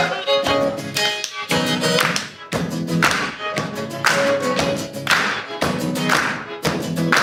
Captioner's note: audience clapping